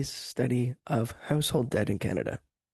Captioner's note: speaking French